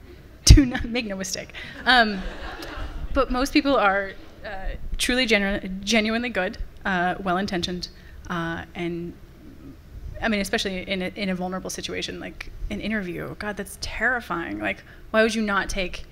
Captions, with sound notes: Make no mistake. (laughter from the audience) But most people are truly genuinely good, well-intentioned, and- I mean, especially in a vulnerable situation like an interview. God, that's terrifying, like, why would you not take